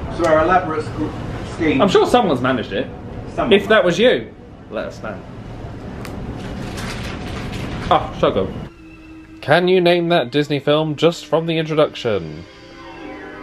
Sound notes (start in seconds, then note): 6.3 crisp snap of chocolate